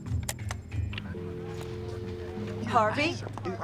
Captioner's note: dial tone drones